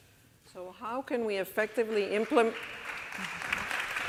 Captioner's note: applause builds